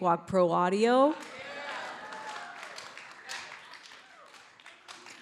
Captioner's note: audience applauds